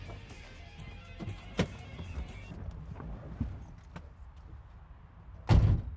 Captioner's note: car door opens and slams shut